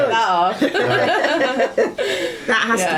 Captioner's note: laughing